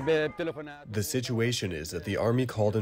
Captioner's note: through translator